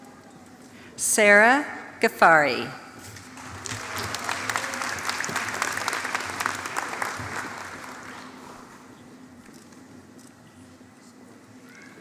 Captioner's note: applause